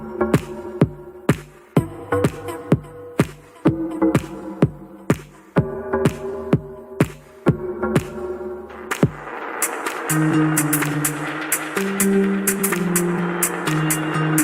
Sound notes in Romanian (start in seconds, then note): 3.7 Aplauze